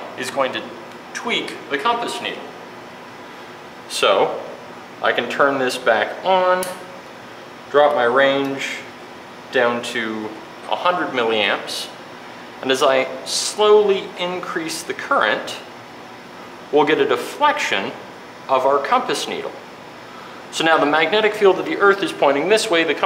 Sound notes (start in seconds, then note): 6.6 clicks